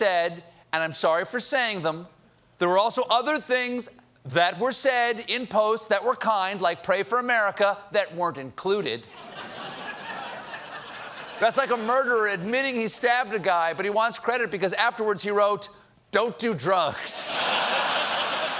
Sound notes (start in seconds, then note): 11.7 laughter